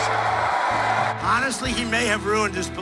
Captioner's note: crowd cheering